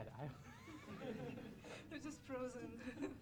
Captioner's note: laughter